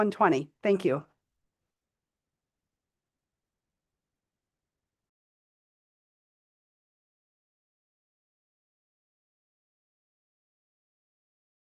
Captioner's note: pause